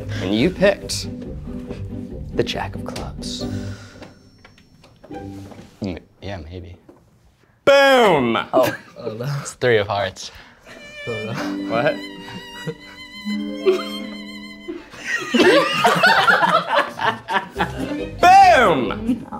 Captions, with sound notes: And you picked the jack of clubs. - Yeah, maybe. - Boom! - Oh, oh, that one's three of hearts. - What? (sad music) (audience laughs) - Boom!